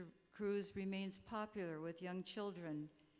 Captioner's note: none